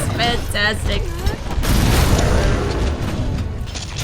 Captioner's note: slap